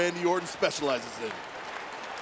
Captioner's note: applause